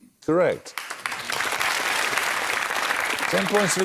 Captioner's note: applause